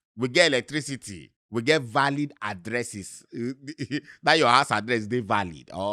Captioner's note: chuckles